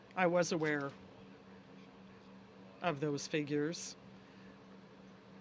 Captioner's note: speaking French